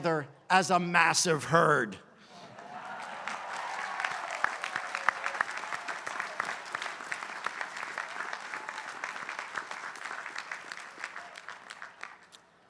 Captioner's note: applause